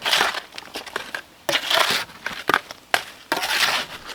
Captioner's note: scraping